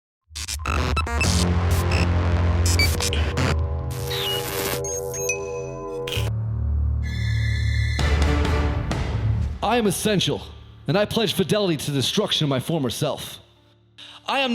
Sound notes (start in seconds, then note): 0.3 static crackling